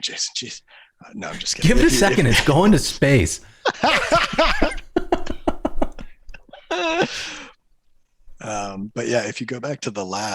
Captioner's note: laughter